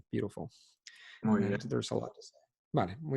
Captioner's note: in Spanish